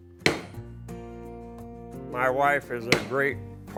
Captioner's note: hammering and music